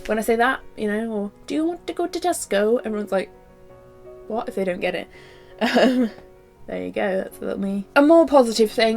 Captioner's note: laughs